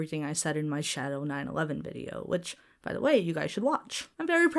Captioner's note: none